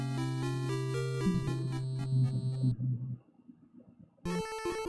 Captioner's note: humming along